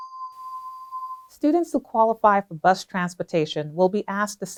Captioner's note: bell tone